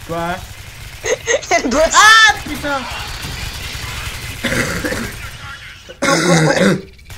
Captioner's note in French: Rire Débile